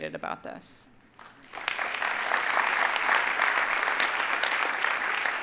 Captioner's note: audience applauding